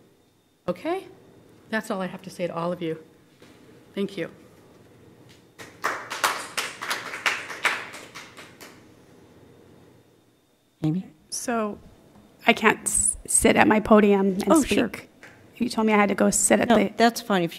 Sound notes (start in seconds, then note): 5.5 applause